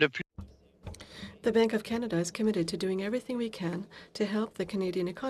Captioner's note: speaking French